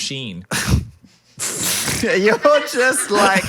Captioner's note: both laughing